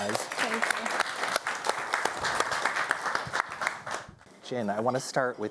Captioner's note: audience applauding